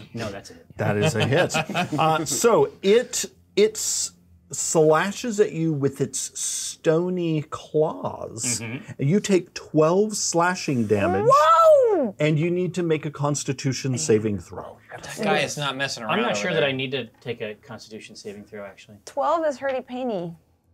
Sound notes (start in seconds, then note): 0.8 co-hosts laughing